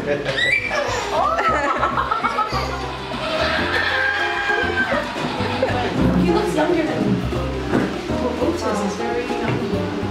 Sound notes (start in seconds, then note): 0.4 little girl laughing and screaming; 0.7 laughing